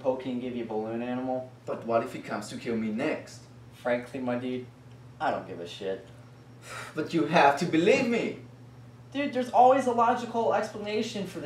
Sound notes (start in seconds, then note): 6.6 sighs